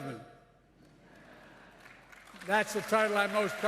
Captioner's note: laughter and applause